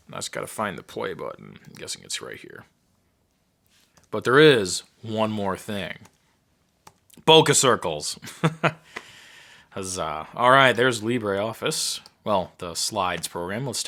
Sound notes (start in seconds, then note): 7.9 laughing